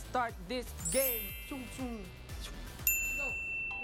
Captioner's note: sound effects